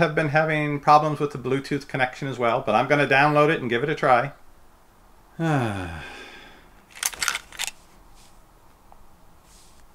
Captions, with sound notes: have been having problems with Bluetooth connection as well but I'm going to download it and give it a try. (sigh)